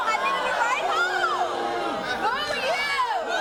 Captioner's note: audience boo's